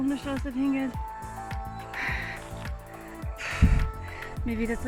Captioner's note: sigh